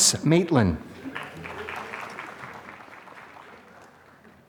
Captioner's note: applause